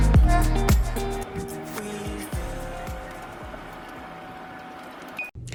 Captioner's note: jet engine humming